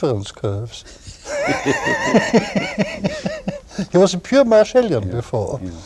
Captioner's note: laughter